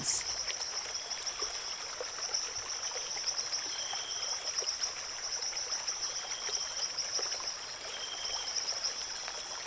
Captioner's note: river flowing; birds singing